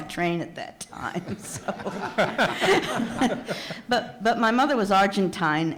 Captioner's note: audience laughs